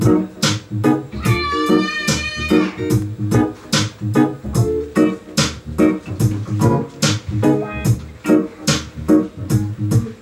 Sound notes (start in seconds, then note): 1.1 child yells